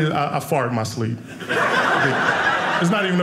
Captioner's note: audience laughing